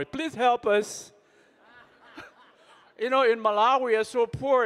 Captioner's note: laughing